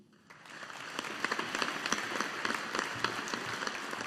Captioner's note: audience applauding